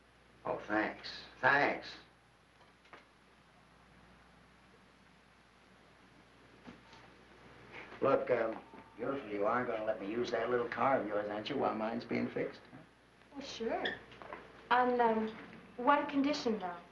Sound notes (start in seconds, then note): none